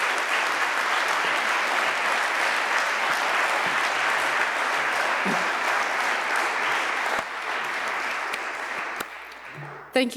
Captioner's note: applause